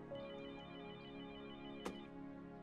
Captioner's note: telephone ringing